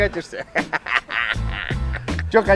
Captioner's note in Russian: смех